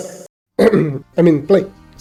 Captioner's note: clear throats